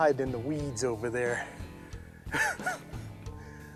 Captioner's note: laughs